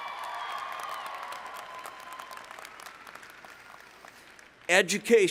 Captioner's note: cheering